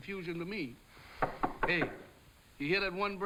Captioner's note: door knocking